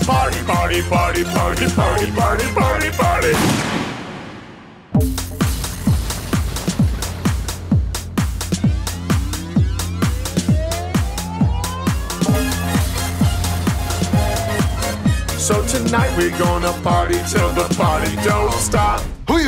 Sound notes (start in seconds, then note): 3.3 gun shot; 5.0 soft rock music